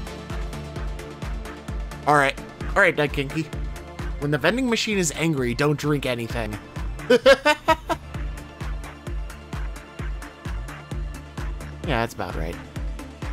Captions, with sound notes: All right, all right Daikenki. When the vending machine is angry, don't drink anything. (laughs) Yeah, that's about right.